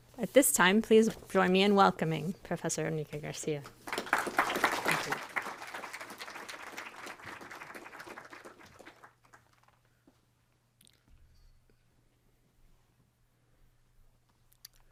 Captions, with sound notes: At this time, please join me in welcoming Professor Enrique Garcia. [APPLAUSE]